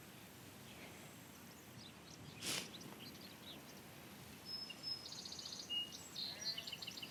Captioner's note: birdsong